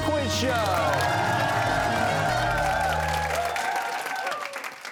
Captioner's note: cheers and applause